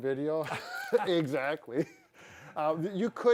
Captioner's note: laughs